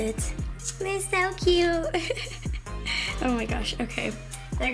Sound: chuckles

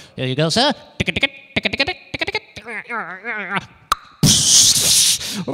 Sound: making humorous noises

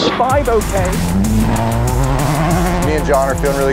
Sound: car engine revs

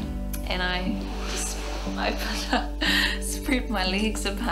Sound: laughs

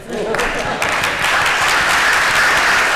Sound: applause

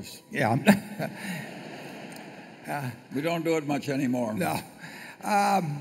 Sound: laughter

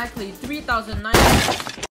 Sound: break noise

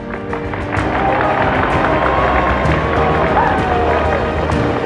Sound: cheering

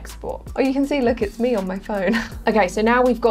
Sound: chuckles

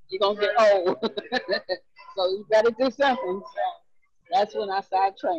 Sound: chuckles

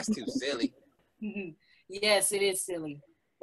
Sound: laughs

